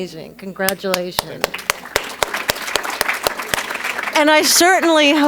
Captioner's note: applause